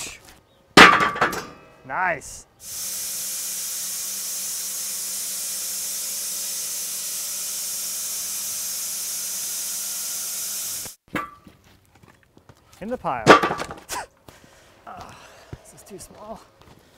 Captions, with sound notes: Woosh... Nice! (machine sawing) In the pile. (log clattering) Ugh, is this too small?